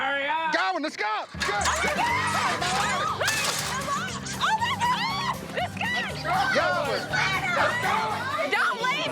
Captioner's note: yelling